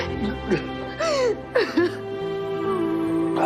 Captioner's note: sobbing